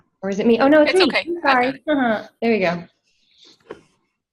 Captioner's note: chuckles